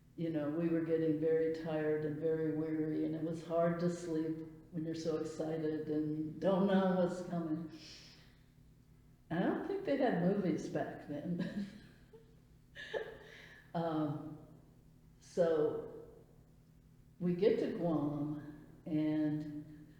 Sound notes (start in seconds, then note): 11.4 laughs